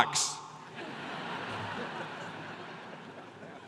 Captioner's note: laughter